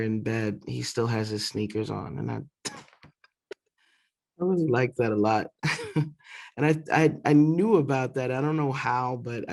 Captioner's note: laughter